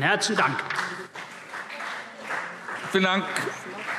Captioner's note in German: Beifall CDU und BÜNDNIS 90/DIE GRÜNEN